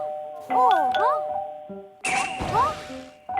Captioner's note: the alarm suddenly rings